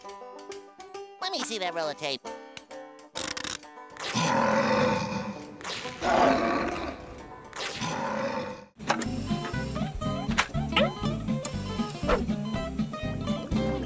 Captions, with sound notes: Let me see that roll of tape. [growling] [beeping]